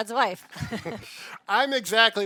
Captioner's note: both laughing